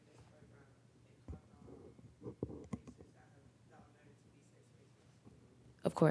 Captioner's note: participant speaking faintly